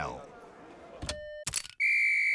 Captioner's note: punch clicks; whistle blows; tone beeps